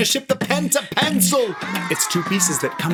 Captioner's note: comic oohing